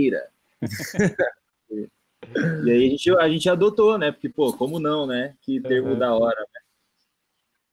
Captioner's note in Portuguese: risadas